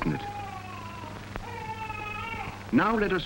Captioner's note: baby crying in the background